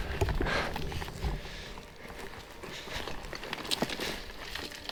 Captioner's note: rocks crumbling